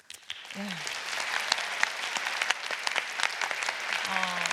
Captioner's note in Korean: 박수